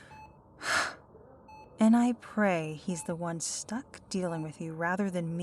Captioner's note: sigh